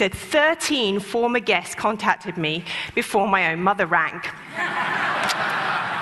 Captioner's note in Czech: Smích